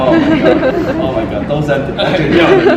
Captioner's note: audience laughter